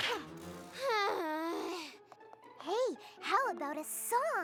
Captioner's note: sighs